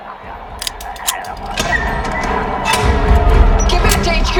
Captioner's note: gun clicks